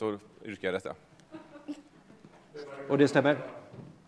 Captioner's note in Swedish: Skratt